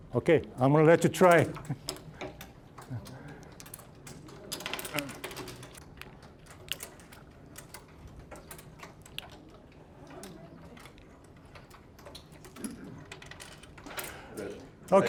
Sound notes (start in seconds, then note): 2.5 puzzle pieces clattering